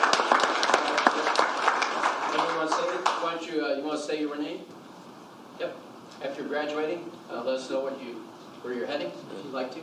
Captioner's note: applause